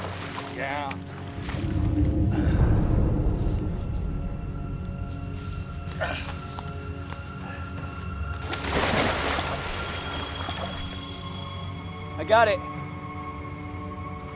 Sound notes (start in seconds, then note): 1.3 groans; 8.2 water splashes